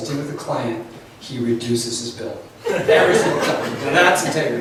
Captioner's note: laughs